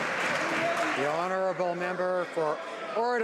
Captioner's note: some Applause